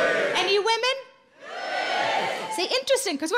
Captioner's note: men cheering; women cheering